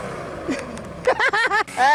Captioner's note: laughing